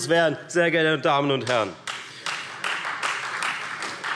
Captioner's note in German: Beifall Freie Demokraten